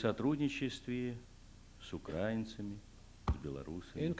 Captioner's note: non-english speech